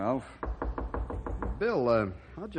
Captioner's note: knocking